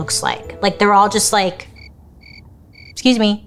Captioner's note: crickets chirping